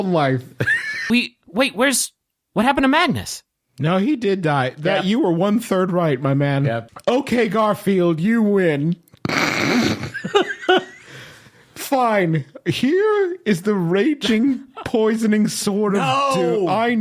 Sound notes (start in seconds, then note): 9.2 snorting